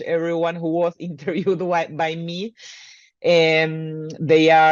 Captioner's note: chuckles